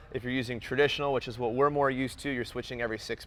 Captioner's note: none